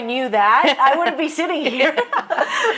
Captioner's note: laughing